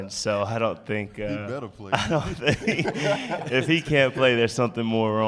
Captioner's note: laughter